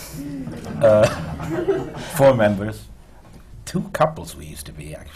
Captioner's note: laughter